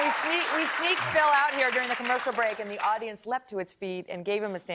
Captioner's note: cheers and applause